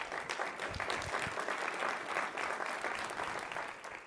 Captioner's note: audience applauds